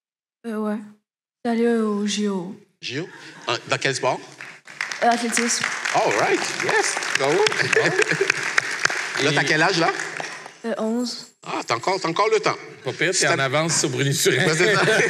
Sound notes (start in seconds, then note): 7.3 applause